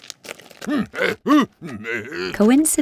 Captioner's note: Esau grunts